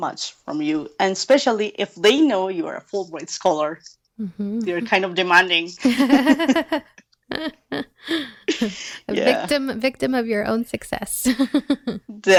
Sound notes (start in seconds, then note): 5.8 laugh